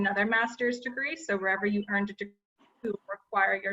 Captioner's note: audio distorts